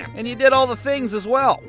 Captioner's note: none